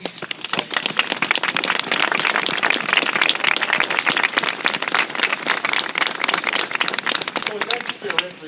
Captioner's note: applause